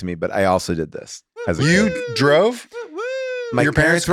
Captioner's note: person cheers